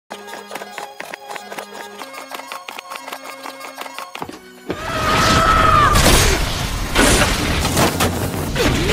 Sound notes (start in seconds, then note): 4.7 screaming